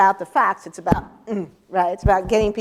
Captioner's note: thump